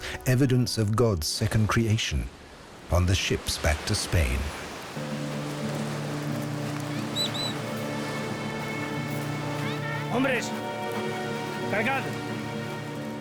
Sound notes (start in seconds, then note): 7.0 parrot whistles; 9.9 speaking Spanish